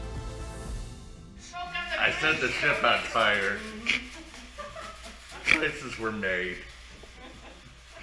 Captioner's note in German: Gelächter